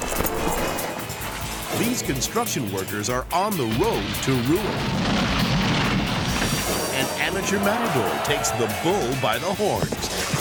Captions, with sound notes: These construction workers are on the road to rule. (building crashing) An amateur matador takes the bull by the horn.